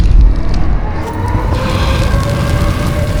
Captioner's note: sirens wail